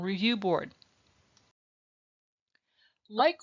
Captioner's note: silence